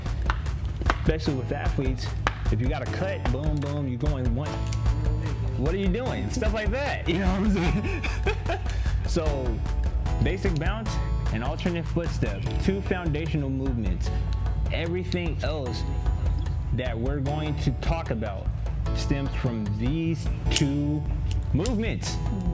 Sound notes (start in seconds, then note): 8.2 laughs